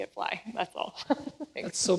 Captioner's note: laughs